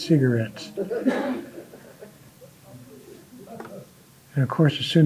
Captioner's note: audience laughing